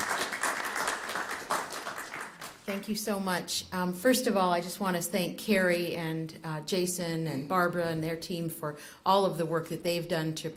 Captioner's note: applause